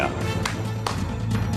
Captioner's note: claps